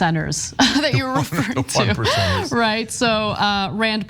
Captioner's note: laugh